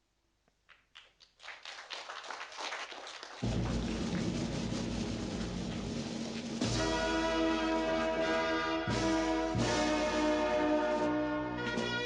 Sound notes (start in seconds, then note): 0.7 audience applauding; 3.4 triumphant music